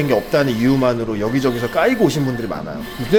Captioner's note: laser starts